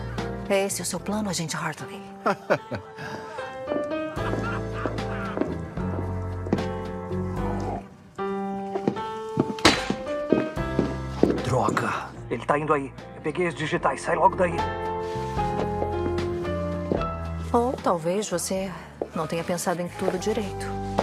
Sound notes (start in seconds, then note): 2.2 laughs